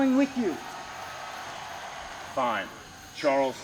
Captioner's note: crowd cheers